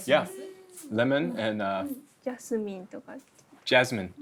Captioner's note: speaks Japanese